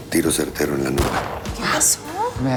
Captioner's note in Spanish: Disparo